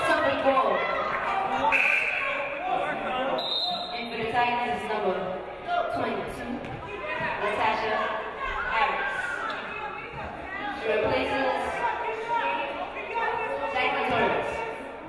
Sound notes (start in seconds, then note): 1.9 game buzzer buzzes; 3.3 referee blows whistle